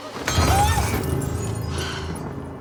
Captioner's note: bente screams